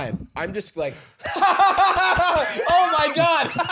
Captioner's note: panicked, overly-enthusiastic laughter